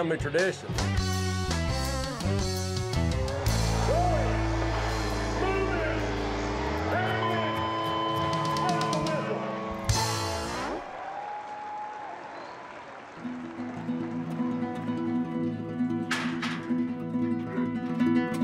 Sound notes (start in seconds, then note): 4.6 crowd cheering